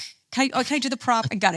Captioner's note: laughs